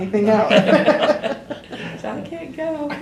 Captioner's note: laughter